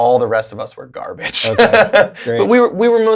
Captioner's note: laughter